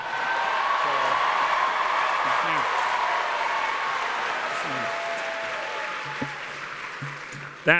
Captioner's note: cheers and applause